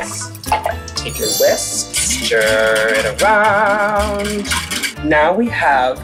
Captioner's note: water splashing noises; singsong